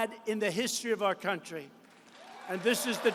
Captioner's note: applause